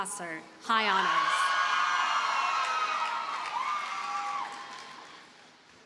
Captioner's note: audience cheers and applauds